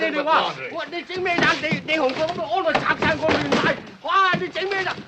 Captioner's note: yelling in Chinese